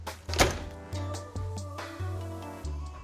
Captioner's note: oven door clicks; upbeat music continues